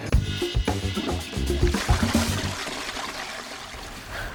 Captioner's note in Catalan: Sona l'aigua de la cadena del vàter